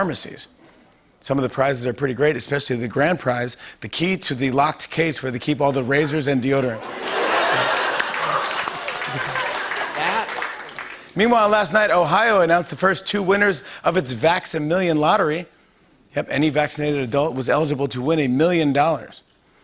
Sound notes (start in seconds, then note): 6.7 laughter; 9.2 applause